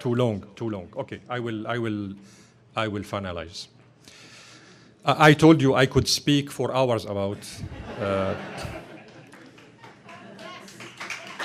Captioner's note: laughter, applause